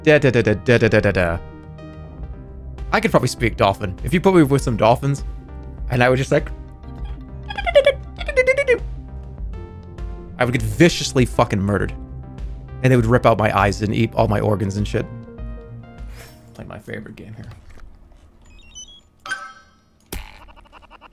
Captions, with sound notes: "Da-da-da-da... da-da-da-da-da..." I could probably speak dolphin. If you put me with some dolphins, and I would just like... [dolpin noises] I would get viciously fucking murdered And they would rip out my eyes and eat all my organs and shit. Play my favorite game here.